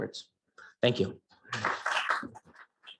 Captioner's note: claps